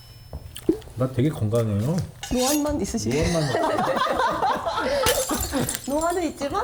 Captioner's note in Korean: 웃음